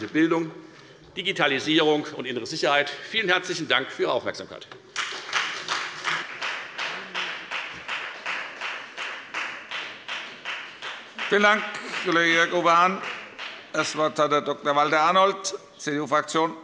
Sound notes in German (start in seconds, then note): 7.8 Beifall bei der FDP